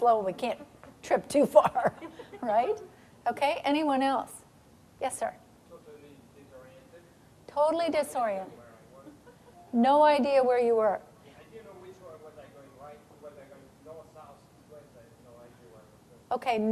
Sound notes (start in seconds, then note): 1.5 chuckling